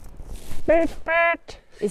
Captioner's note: honking the horn